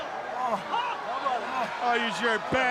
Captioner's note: crowd chatter